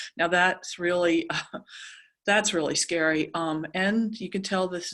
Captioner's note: laugh